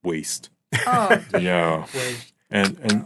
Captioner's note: laughing